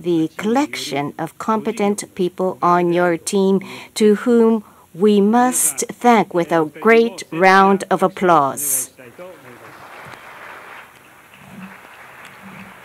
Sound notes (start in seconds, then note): 9.0 applause